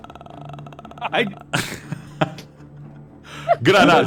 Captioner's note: laughs